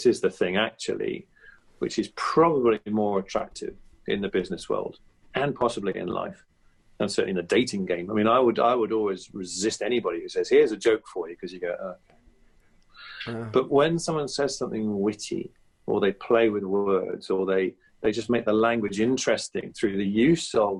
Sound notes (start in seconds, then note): 13.0 groan